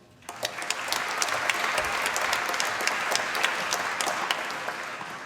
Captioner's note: applause